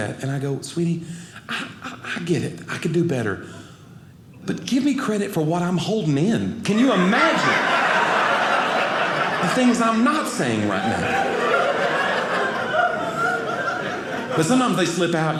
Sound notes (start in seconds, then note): 8.2 audience laughing; 11.8 audience laughing